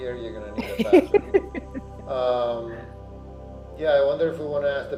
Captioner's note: laughs